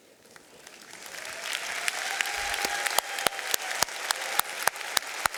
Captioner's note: audience applauding